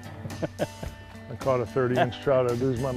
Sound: laughter

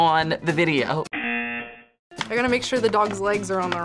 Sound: buzzer rings

